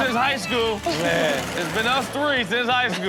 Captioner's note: audience laughs